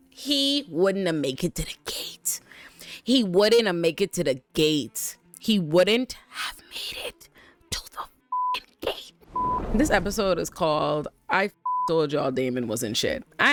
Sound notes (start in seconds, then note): 9.3 beep; 11.6 beep